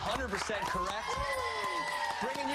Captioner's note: applause